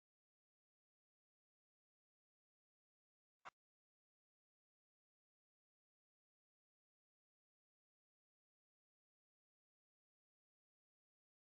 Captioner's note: silence